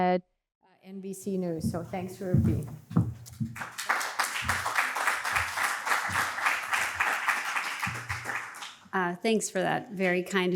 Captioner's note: applause